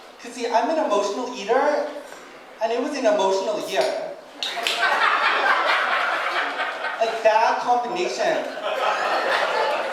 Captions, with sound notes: 'Cause see, I'm an emotional eater and it was an emotional year. (audience laughing) Like bad combination.